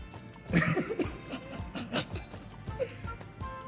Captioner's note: laughs